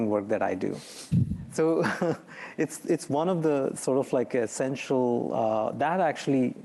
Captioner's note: chuckles